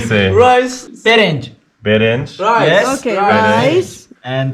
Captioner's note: in Farsi